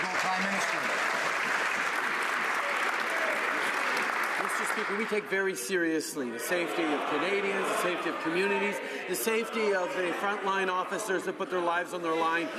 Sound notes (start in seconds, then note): 2.0 some Applause